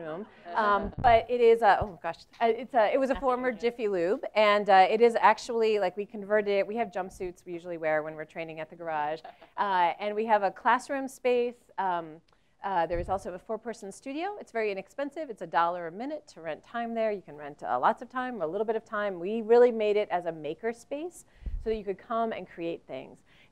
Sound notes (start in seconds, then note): 9.5 laugh